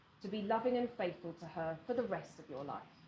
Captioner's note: none